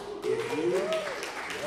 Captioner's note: applause